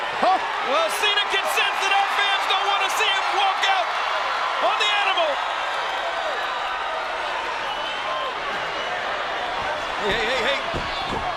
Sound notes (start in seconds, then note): 0.0 crowd booing continues; 6.6 crowd chattering